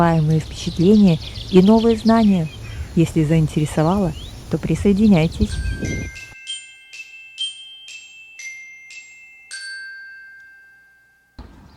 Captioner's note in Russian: колокольчик